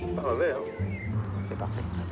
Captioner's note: speaking in foreign language